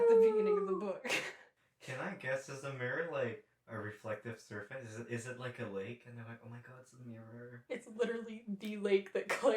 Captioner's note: laughter